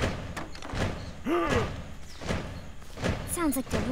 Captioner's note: loud thumping marching in the distance; gasps